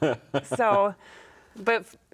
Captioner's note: chuckling